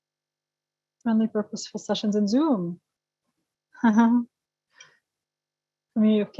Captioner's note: laugh